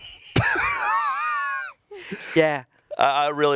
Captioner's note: chuckling